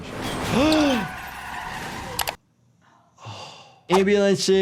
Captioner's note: tires squealing; ambulance whooshing; gasping